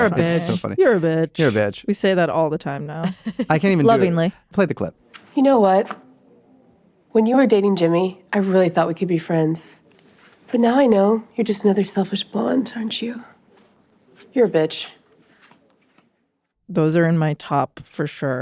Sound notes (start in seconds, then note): 3.0 chuckles